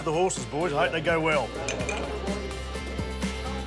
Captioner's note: glasses clink